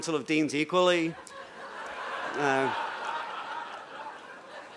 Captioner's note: laughter